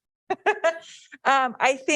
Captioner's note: laughing